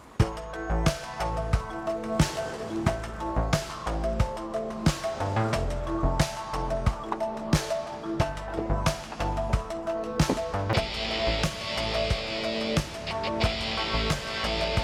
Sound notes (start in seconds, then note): 0.3 moody synth music; 6.6 car doors open; 11.0 moody synth music continues